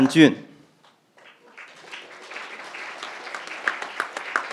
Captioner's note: crowd applauding